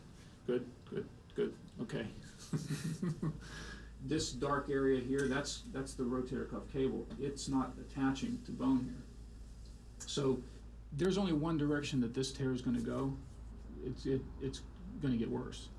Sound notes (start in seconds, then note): 2.3 laughs